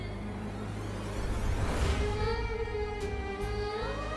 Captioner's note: emotive vocalisation